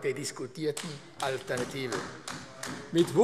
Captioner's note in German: Beifall AfD